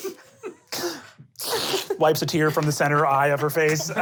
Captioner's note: laughing; snotty sniffling